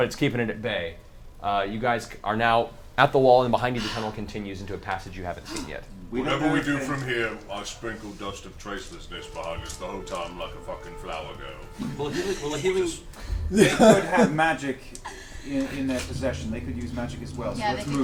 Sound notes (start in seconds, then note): 13.3 all laugh